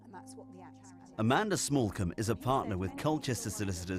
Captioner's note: voiceover